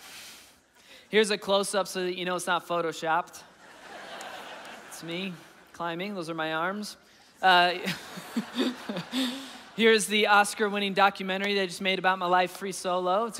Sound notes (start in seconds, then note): 7.8 laughing